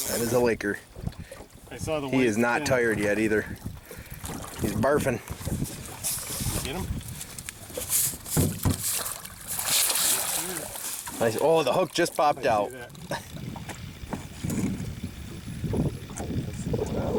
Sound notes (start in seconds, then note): 13.0 wind blowing